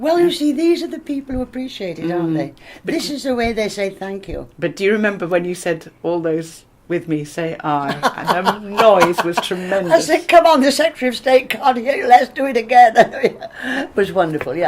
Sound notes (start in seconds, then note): 7.8 laughters